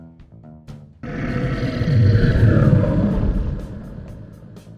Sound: bear growling

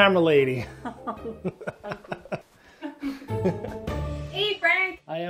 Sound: both laughing

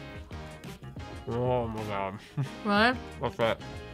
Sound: laughs

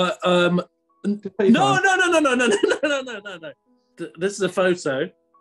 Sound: laughing

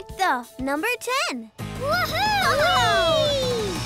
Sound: cheering

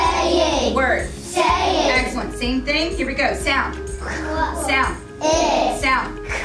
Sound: students sounding out words

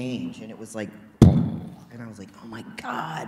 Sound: imitates explosion

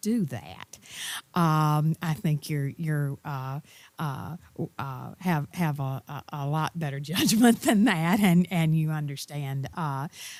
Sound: laugh

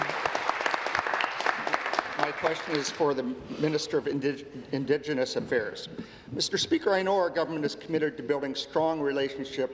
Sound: applause

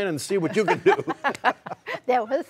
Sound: laughter

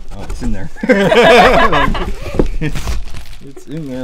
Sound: laughter

